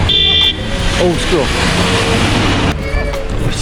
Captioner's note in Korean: 정신이 혼미해지는 경적소리